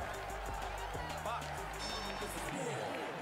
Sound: audience cheering; bell ringing

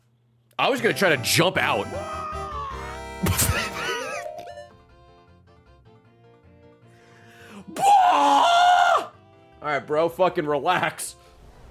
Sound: laughs

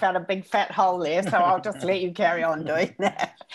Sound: laughs

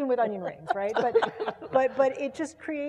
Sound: laugh

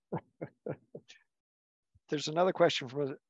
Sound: chuckles

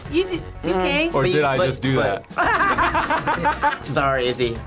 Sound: group laughs

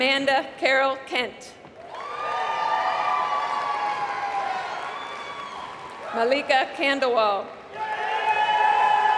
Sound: applause

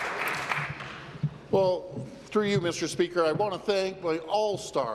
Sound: applause

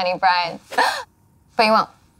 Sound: gasps

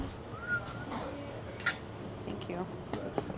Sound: whistles

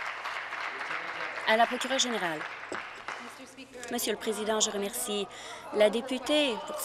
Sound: applause

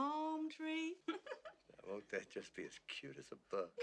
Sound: giggles

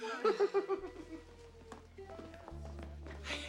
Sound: giggles

